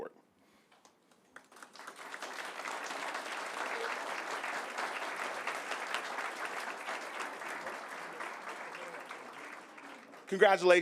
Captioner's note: applause